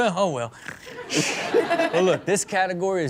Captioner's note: Chanel and audience laugh